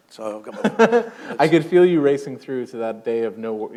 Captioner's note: chuckle